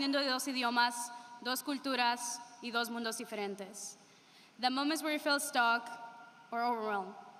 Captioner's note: speaking spanish